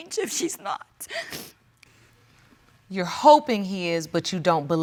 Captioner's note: sniffles